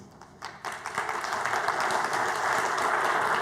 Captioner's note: applause